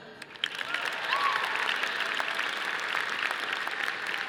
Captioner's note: audience applauding